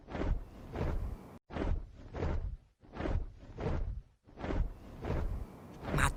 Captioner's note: flapping wings